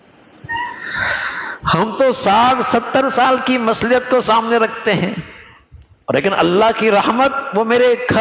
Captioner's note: gasp